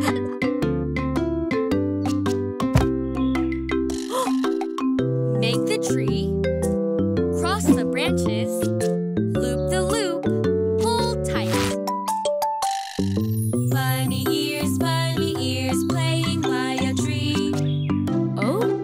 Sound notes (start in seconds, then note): 4.1 gasping